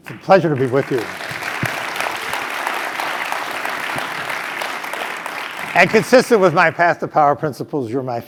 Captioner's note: applause